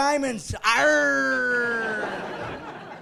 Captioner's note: laughing